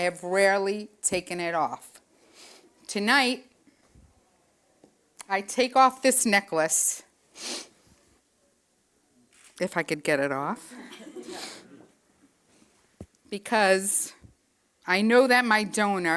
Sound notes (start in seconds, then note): 7.4 sniffs; 10.8 friends laughing